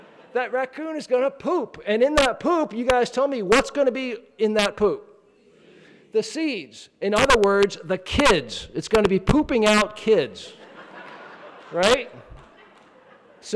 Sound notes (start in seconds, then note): 5.7 crowd; 10.5 laughing